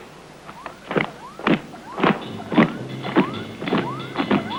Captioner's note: electronic beeping